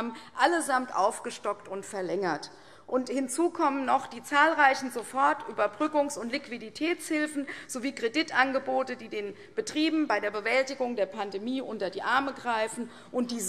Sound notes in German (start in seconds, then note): none